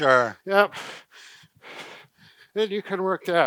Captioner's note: breathing heavily